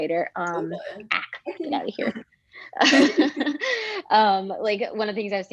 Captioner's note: laughs